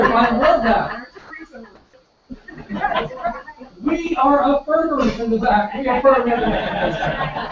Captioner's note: laugh; laugh